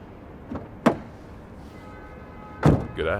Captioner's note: car door opens